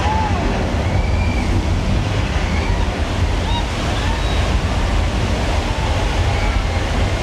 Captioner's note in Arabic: يندفع الماء; يصرخ الشخص